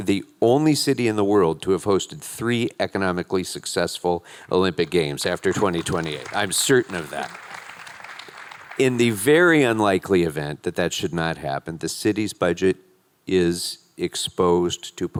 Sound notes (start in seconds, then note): 4.4 attendees clapping